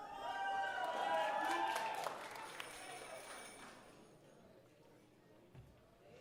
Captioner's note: audience cheering and applauding